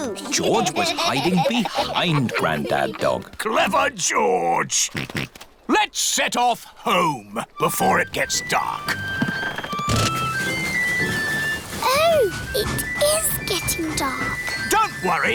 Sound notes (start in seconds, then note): 5.1 snorts